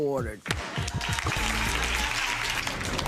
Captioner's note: clapping